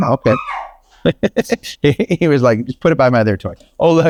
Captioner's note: Rocky laughs